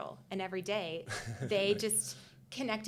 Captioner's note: chuckling